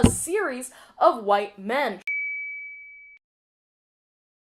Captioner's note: ding